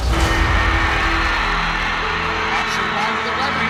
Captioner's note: crowd cheering; radio Announcer